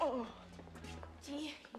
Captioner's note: groans